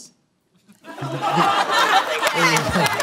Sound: laughter

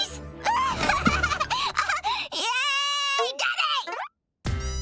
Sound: giggling

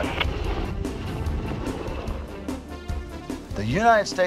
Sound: helicopter engine roaring; upbeat music

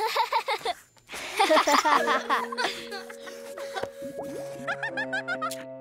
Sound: students laughing

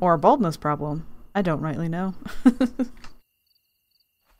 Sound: laughs

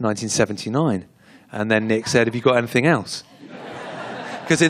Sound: laughter

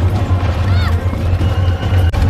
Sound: simba yells

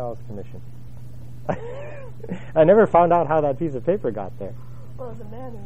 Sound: laugh

